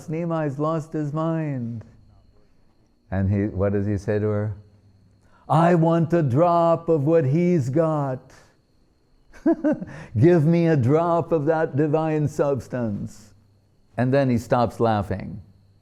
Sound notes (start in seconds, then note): 9.3 laughing